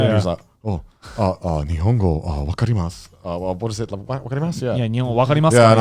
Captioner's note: speaks Japanese